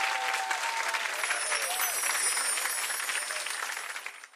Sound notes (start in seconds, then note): 1.1 chiming